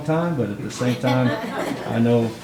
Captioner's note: all laughing